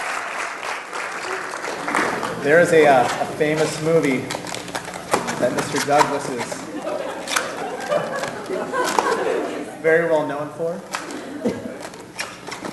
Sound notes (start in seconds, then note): 3.3 applause